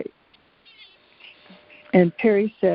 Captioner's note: cat meows